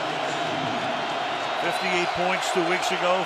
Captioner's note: pa announcement